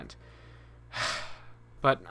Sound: sigh

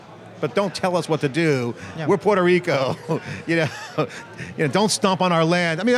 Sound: laughing

